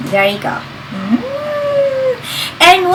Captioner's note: giggling